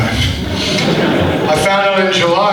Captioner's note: audience laughs